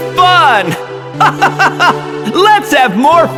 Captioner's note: laughs